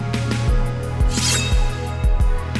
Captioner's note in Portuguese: som de espada cortando o ar